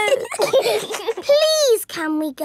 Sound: giggling

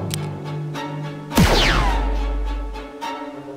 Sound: click; blaster Shot

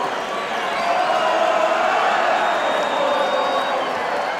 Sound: crowd chants

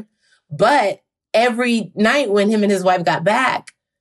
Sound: none

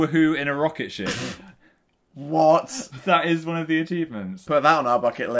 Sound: laughs incredulously

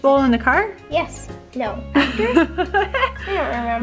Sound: laughs

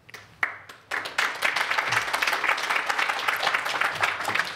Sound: applause

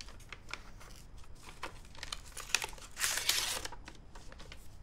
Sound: envelope opening

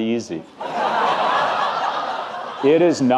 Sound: audience laughing

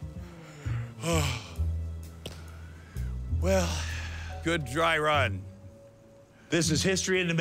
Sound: yawns

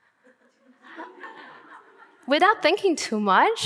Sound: audience laughing

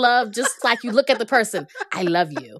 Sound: laughter

